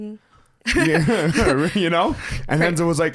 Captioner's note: both laughs